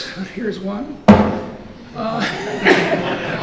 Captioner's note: book thuds; audience laughs